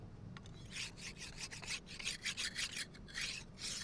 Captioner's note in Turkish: Hançer bileme sesi